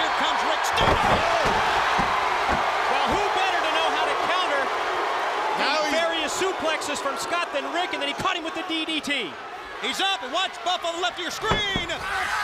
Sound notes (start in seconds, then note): 1.2 crowd cheering; 12.2 crowd cheering